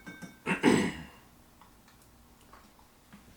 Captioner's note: clears throat